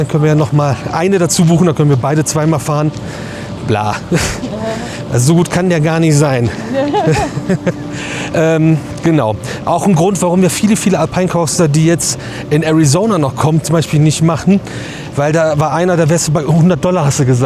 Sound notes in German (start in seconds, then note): 6.6 gelächter